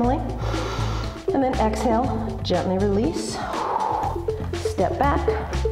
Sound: exhale

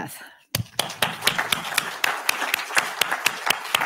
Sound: applause

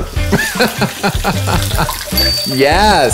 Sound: laughs

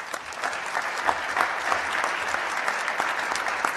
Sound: applause

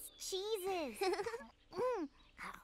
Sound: giggles

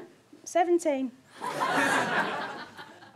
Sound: audience laughter

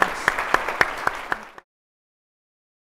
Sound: audience applauding

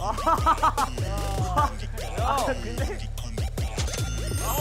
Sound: bursts in laughter as soon as they see him★

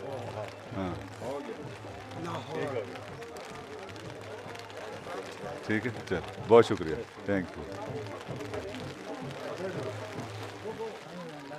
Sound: raining sound

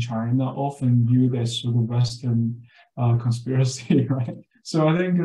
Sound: laughs

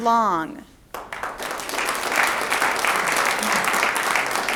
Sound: audience applauds

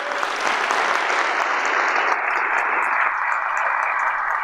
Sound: audience applauding

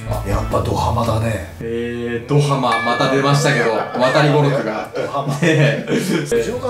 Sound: laughs

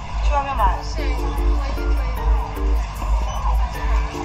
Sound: murmur, roar, roar

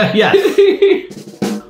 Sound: laughing

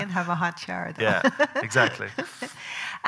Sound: laughing

